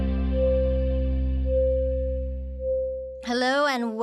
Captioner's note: electronic pulses